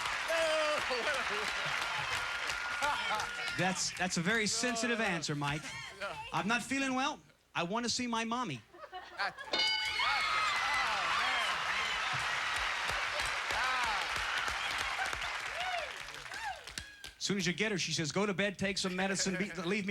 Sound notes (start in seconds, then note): 9.6 cheers and applause